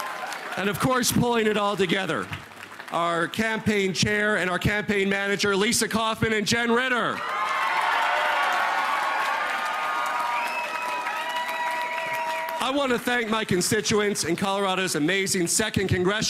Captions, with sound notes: OVER 4000 VOLUNTEERS ACROSS THE STATE. GIVE YOURSELVES A ROUND OF APPLAUSE. [ APPLAUSE ] OF COURSE, PULLING IT ALL TOGETHER OUR CAMPAIGN CHAIR AND CAMPAIGN MANAGER.